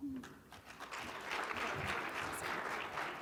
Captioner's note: audience applauding